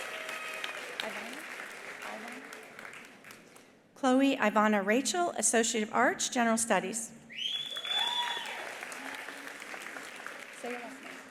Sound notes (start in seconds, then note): 0.0 attendees cheering; 0.0 attendees applauding; 7.3 attendee whistling; 7.6 attendees cheering; 7.6 attendees applauding